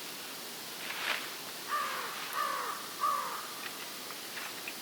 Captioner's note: crows calling